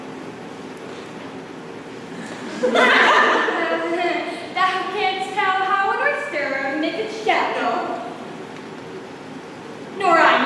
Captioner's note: brief laughter